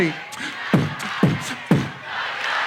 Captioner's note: beat boxes